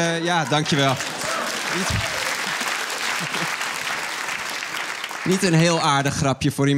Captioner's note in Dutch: applaus